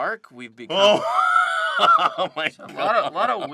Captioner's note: laughing